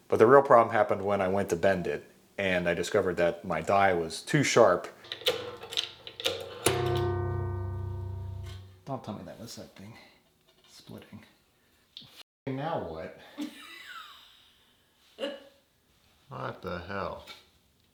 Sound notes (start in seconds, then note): 6.2 metal thuds; 13.4 wife laughs